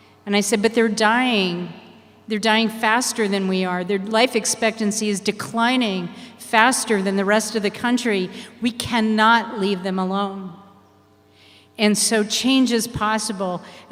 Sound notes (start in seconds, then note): none